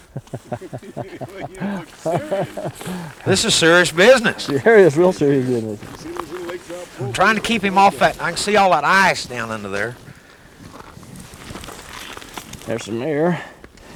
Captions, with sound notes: [Laughter] this is serious business sure it is real serious business I am trying to keep him off that I can see all that ice now under there there some air